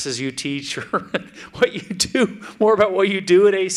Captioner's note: laughs